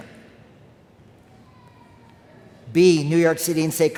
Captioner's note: child crying in crowd